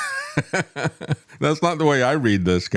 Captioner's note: laughs